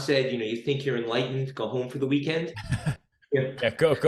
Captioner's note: laughs